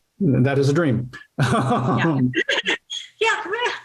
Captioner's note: laughter